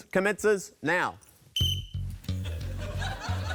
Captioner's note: blows whistle